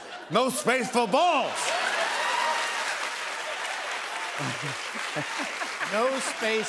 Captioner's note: laughter, cheers, applause